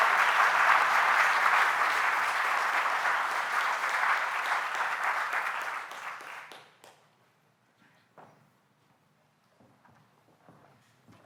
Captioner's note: applause